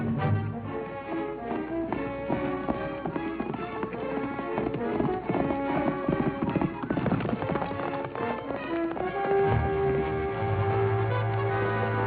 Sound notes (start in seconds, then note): 0.0 action music; 4.0 horses galloping